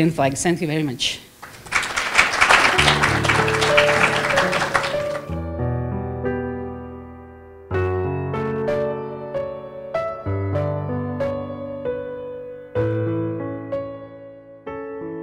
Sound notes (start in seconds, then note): 1.4 applause